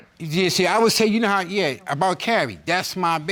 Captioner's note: stammering